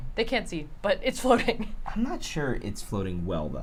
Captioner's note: laughs